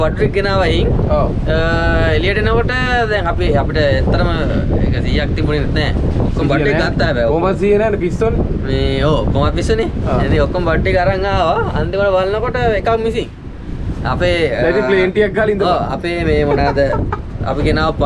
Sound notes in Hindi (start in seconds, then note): 16.2 हंसते हुए